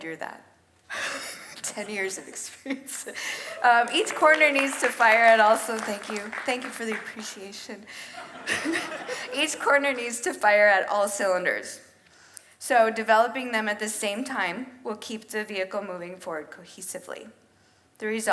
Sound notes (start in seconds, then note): 2.7 laughs; 3.3 audience applauds; 8.0 audience laughs